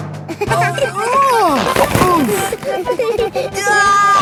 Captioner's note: giggling; grunting; giggling